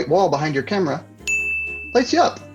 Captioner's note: bell ringing